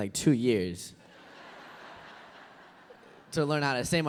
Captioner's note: laughter